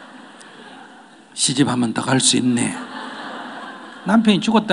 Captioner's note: audience Laughter